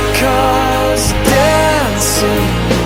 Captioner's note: cough: rent to own: cough